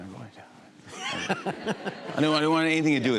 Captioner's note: laughter